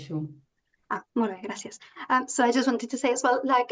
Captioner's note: speaking in Catalan